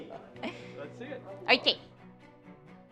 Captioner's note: both laugh